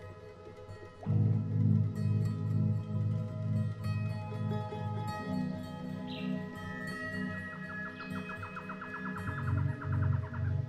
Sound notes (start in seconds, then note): 1.0 relaxing music; 6.0 bird sings